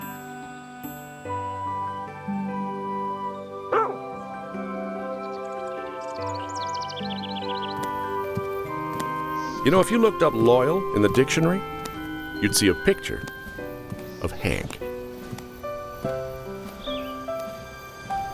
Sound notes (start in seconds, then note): 1.0 gentle music; 3.7 Hank barks; 6.2 birds chirping; 15.5 gentle music